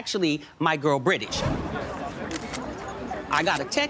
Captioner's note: chatter